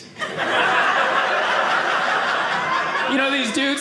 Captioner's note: audience laughing